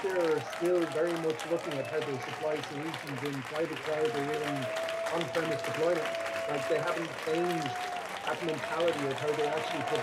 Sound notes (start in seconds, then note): 3.4 dialogue drowned out by thunderous applause